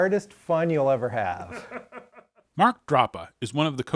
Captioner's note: man offscreen laughing